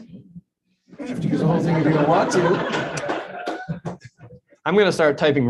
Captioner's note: murmuring and laughter